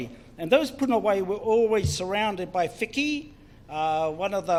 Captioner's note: foreign Language; foreign Language